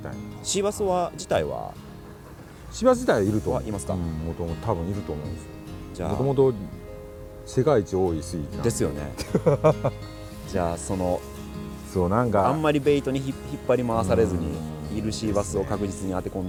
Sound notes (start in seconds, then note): 8.9 laughs